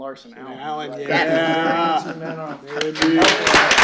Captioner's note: applause